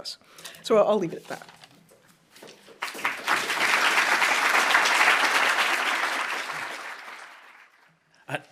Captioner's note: applause